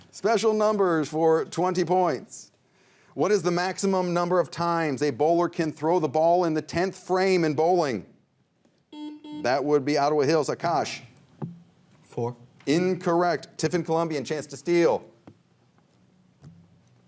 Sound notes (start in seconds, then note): 8.9 buzzer rings